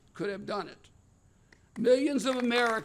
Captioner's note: applause